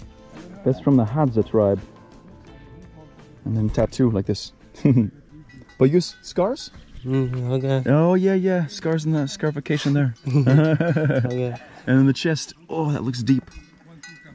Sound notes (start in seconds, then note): 4.7 laughs; 9.6 laughing